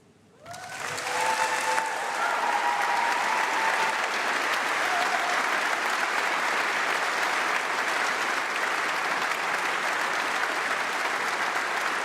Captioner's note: applause